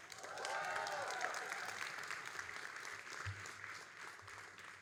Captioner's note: all applauding and cheering